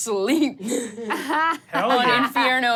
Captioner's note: laughs loudly